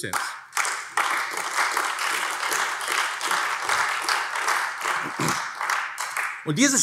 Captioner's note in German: Beifall AfD